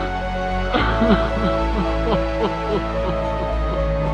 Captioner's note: AJ cries